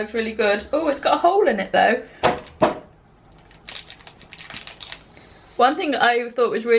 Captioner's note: rustling